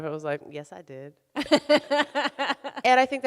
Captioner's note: laughs